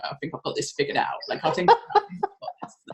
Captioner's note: mutters